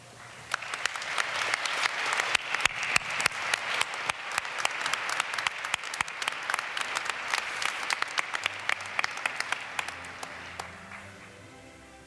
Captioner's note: applause